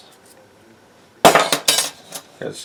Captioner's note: metal clanging